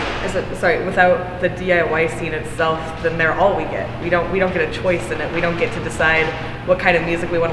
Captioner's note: none